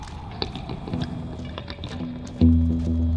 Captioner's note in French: rafales de vent